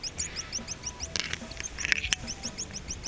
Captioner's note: bird squeaking